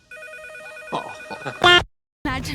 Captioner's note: relieved chuckle